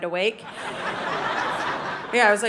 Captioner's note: audience laughing